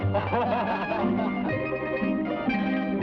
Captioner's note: men laugh; somber guitar music